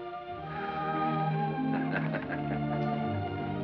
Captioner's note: chuckling